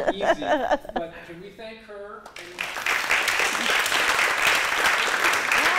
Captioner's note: applause